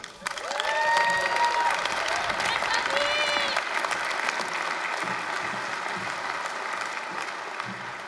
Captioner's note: applause, cheering